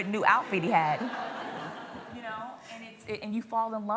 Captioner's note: laughter